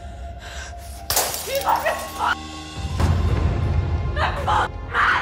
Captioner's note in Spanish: Estruendo